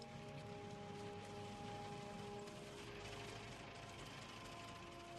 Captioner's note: vehicle approaching